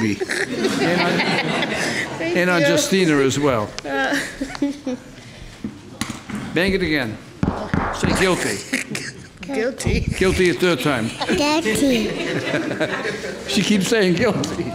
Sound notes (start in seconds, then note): 0.0 laughing; 4.1 laughing; 7.4 hammer banging; 8.4 laughing; 11.9 laughing